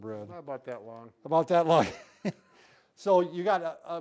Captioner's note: laughing